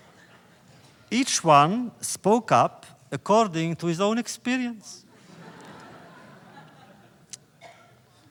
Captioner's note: laughter